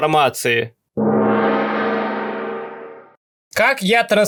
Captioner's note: gong